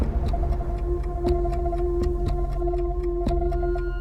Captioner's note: clock ticking; tense music